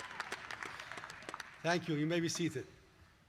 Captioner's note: cheers